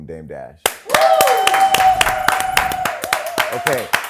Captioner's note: applause